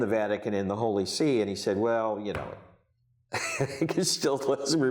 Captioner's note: chuckles